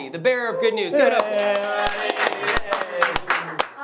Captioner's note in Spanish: aplausos